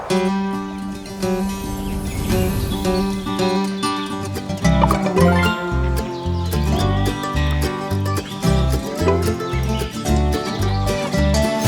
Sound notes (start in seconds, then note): 4.8 notification